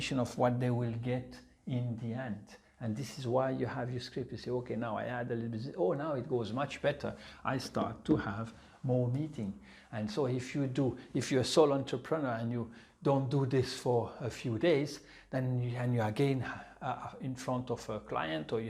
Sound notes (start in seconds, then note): none